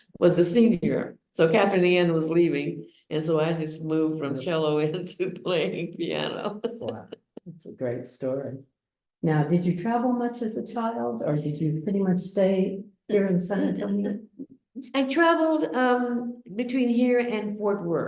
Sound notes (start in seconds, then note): 6.4 laughs